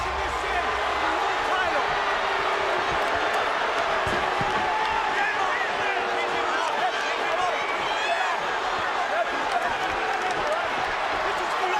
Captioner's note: applause